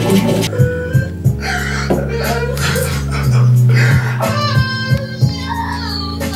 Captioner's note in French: il pleure